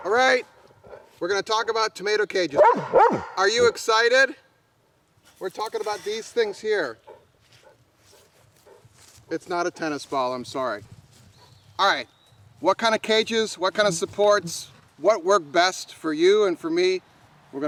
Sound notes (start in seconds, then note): 2.6 dog barking